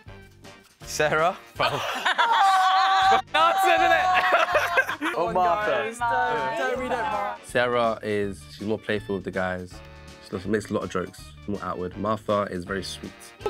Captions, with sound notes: Sarah. [LAUGHING] F*****g answered, innit? Or Martha? Sarah is, she's more playful with the guys. She makes a lot of jokes, more outward. Martha is very sweet.